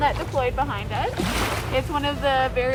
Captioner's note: water splashing